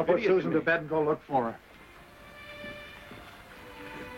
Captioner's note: soft music; thunder claps